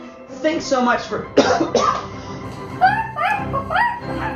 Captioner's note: cough, cough